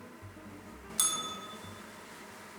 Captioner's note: bell rings